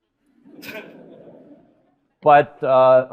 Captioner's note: audience laughing